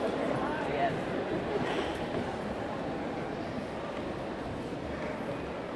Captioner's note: indistinctly chattering; audience indistinctly chattering